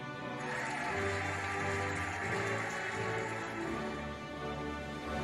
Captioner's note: cheering and applauding